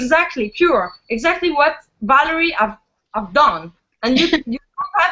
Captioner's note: laughs